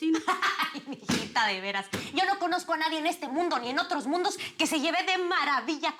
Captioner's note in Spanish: Risas